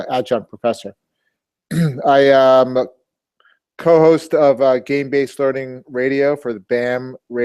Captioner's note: cough